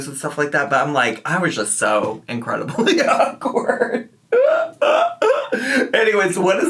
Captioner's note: laughs